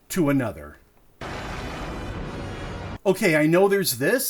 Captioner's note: thunder